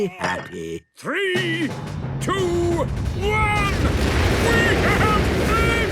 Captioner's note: rockets igniting